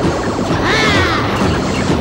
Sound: grunts

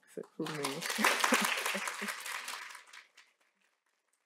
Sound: applause

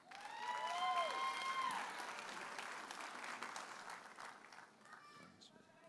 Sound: audience applauding and cheering

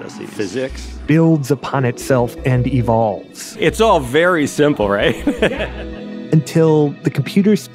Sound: laughs

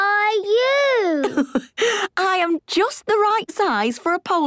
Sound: laughs

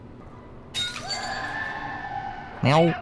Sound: rattling and screaming

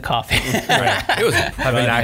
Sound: laughing

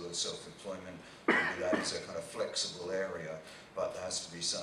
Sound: man coughing

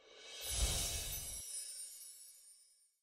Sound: swoosh

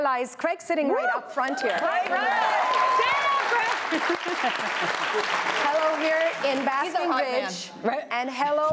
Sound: applause

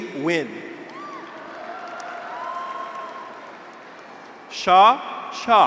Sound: graduates cheer; audience applauds

